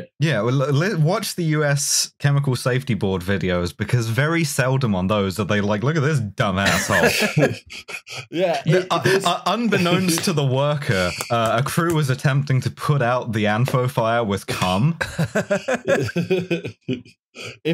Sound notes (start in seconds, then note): 6.6 laughter; 14.9 laughs at this one